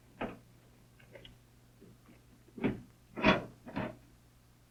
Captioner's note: metal clunking